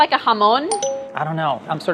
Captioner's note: dinging